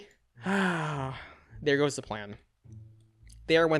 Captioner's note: sighs